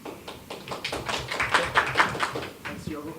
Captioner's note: claps